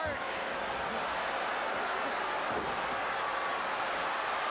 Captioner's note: crowd chattering